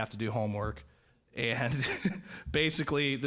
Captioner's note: laughing